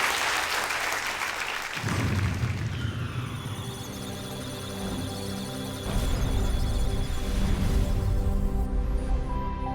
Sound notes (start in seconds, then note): 1.9 applause; 4.3 electronic sounds of data; 4.3 musical tones